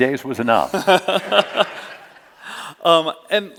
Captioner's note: laughter